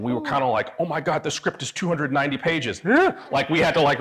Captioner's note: gasps